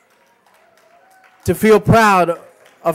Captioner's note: applause